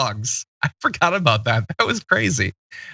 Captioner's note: laugh